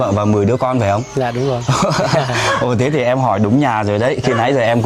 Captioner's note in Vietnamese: tiếng cười